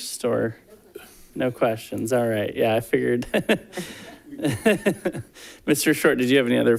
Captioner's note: laughs